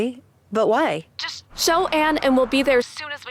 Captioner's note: on phone